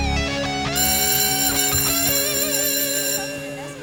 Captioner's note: bell ringing